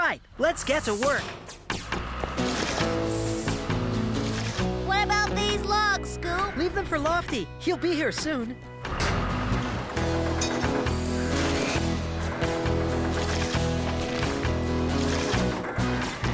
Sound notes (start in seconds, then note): 8.8 engines Running